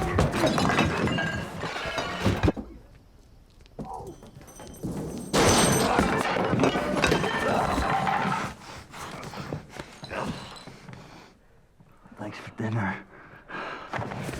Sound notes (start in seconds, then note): 0.0 scuffling; 0.0 glass shatters; 2.4 grunting